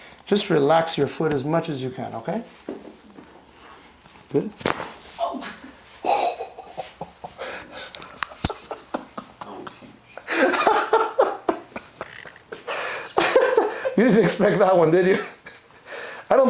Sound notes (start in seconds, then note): 5.1 leg cracks; 7.8 laughing